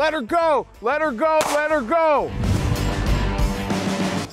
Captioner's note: gunshot